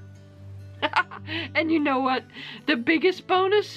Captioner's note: giggles